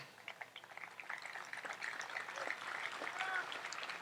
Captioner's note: audience applauds